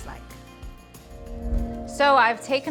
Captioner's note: logo whooshing